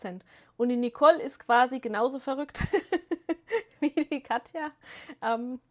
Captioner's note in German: gelächter